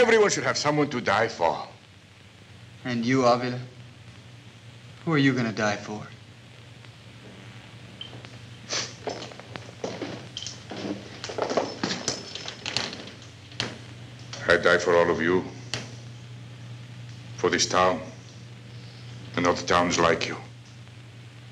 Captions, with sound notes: Everyone should have someone to die for! - And you, Avila? Who are you gonna die for? [scoffs] - I die for all of you, for this town, and other towns like you.